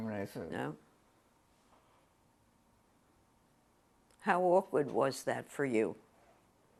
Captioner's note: pauses for 3 seconds